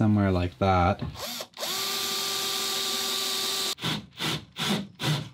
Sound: drill buzzing

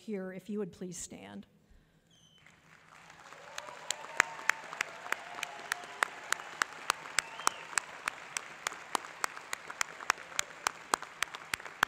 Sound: applause

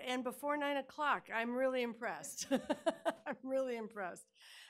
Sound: laughing

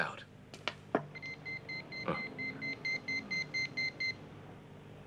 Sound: high pitched beeping

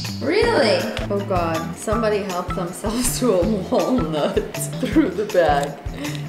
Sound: laughs

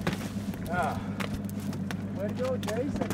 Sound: fish thrashing

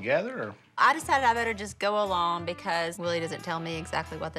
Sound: none

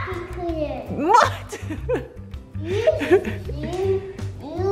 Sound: laughs

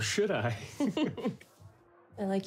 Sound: both chuckle

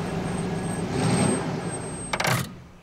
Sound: brakes squealing

